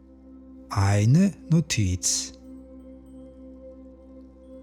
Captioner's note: german